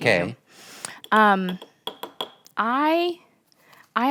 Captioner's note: spoon tapping jar